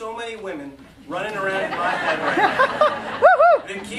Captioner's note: laughter